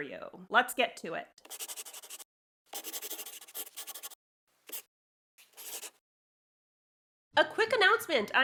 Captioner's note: the sound of a pen scratching. LOGO